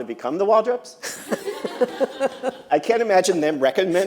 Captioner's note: laughter